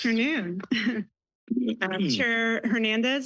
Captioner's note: chuckles